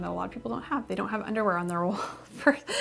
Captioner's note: laughs